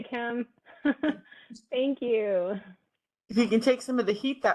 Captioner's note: laughs